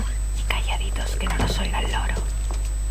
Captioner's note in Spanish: susurrando